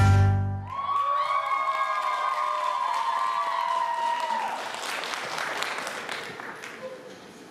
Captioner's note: applause